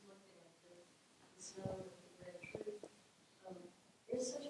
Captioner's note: faintly speaking